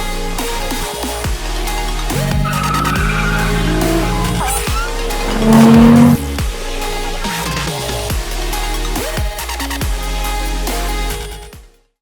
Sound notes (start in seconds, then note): 2.0 tires squealing; 5.4 engine roaring